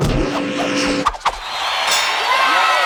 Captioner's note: cheering